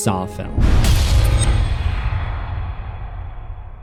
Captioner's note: thunder